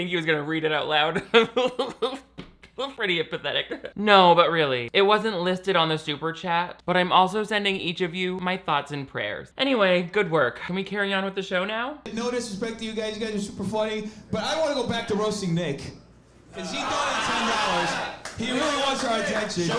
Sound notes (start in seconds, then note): 1.3 laughs; 16.6 audience laughing